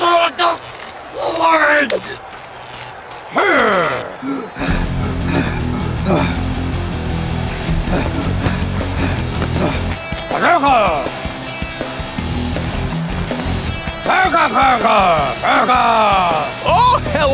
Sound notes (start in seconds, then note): 0.1 speaking in foreign language; 4.5 panting; 10.8 speaking in foreign language